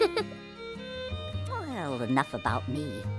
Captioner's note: gasping